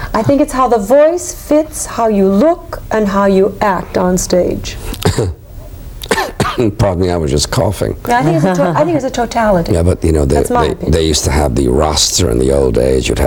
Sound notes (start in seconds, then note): 5.0 coughing; 8.1 laughing